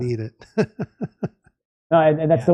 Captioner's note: laughs